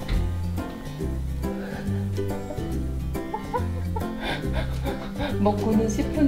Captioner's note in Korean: 웃음